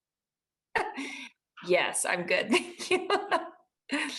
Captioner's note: laughing